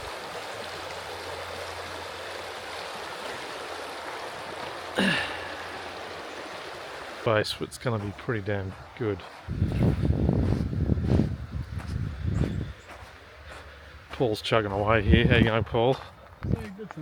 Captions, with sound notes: I'll just flip it around. (water splashing) Base, it's gonna be pretty damn good.